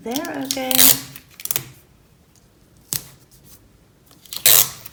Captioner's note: tape unrolling sound